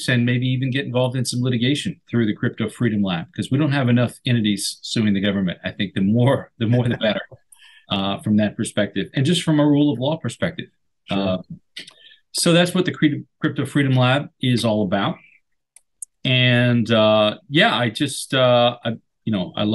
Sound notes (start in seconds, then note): 6.6 laughs